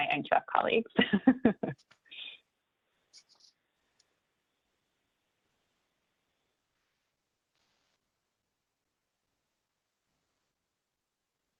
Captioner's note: laughs